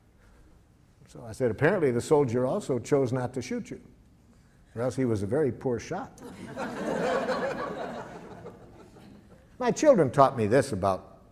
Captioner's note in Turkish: Gülüşmeler